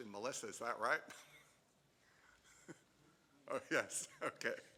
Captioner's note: chuckling